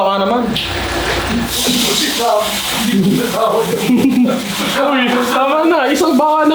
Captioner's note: indistinct chatter